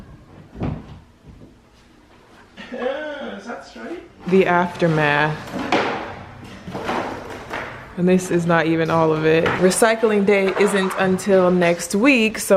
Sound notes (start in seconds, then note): 3.0 exclaims